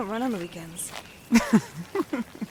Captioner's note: chuckles